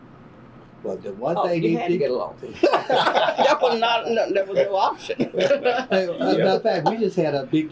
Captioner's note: laughter